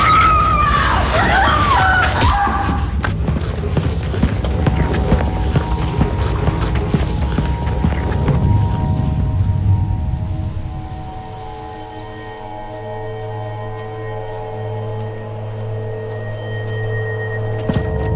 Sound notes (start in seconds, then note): 2.3 thudding; 4.7 ominous music